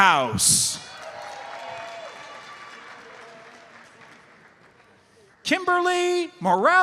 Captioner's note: audience cheers and applauds